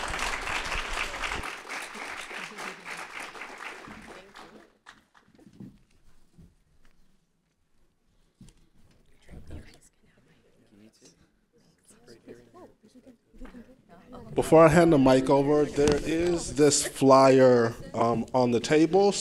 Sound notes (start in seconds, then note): 0.0 applause; 7.1 background Chatter